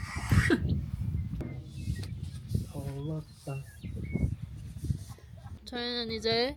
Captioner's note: scratch scratch.. scratch.. scratch scratch